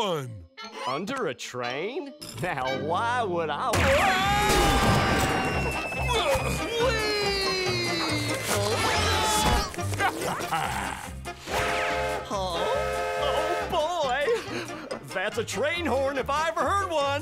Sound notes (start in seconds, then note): 4.0 screaming; 5.3 grunting; 9.7 laughing; 12.6 train honking